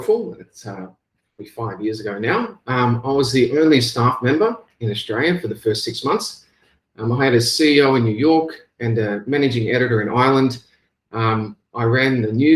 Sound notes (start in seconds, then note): 3.0 mic static